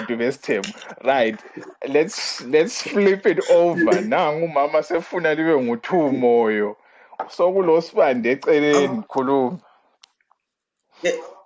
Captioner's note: gasps!